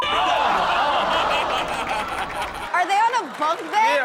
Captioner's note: laughs